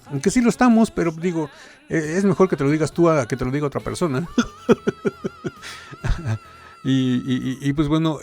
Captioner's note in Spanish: risas